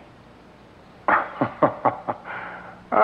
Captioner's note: chuckling